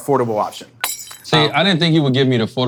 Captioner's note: glass breaking